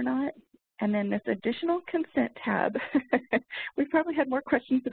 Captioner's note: laughs